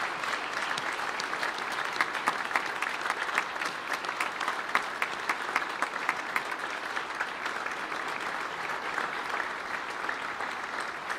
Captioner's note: applause